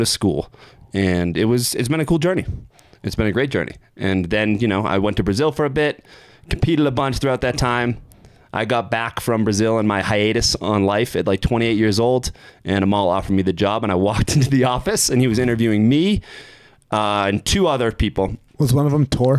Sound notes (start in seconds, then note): 14.2 chuckling